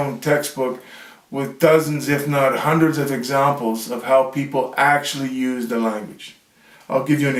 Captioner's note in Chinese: 英语